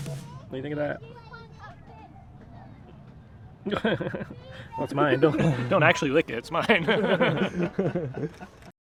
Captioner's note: laughs; more laughs